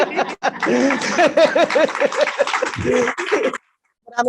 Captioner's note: laughter; applause